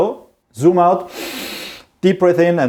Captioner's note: inhales deeply